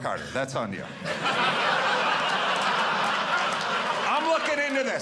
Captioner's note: audience laughing